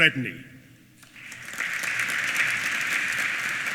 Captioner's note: applause